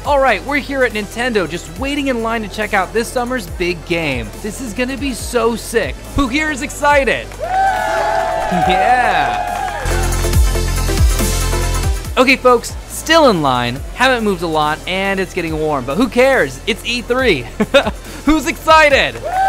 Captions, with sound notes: - All right we're here at Nintendo just waiting in line to check out this summer's big game, this is gonna be so sick who here is excited? (crowd cheering) (upbeat techno music) - Okay folks, still in line haven't moved a lot and it's getting warm but who cares. It's E3, who's excited?